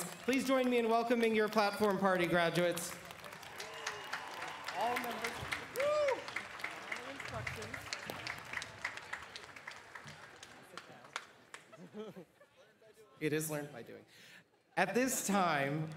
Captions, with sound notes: Christopher Appel, Grand Marshal Camille O'Bryant, Grand Marshal. All members of the President's Party, please stand and be recognized. (Applause)